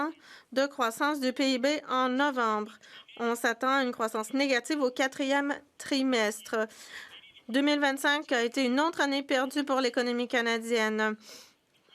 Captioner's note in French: voix de l'interprète